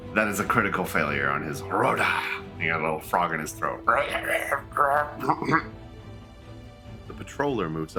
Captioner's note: exaggerated coughing sounds